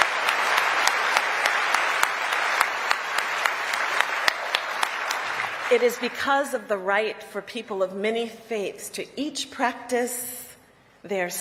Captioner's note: applause